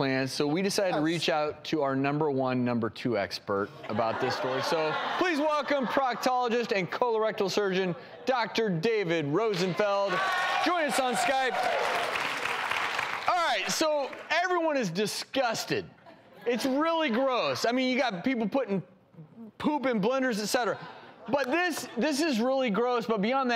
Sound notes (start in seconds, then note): 10.2 applause